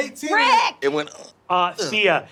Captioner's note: grunts